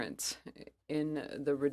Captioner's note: speaking french